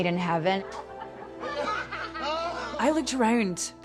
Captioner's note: all laughing